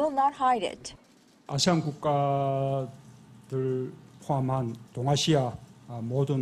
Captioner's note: Korean